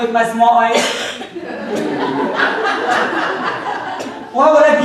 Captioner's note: audience laughing